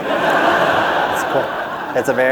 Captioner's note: laughter